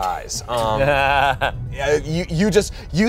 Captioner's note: everyone laughs